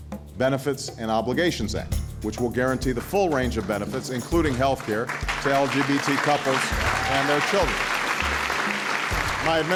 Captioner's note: cheers